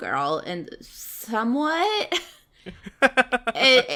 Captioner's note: laughs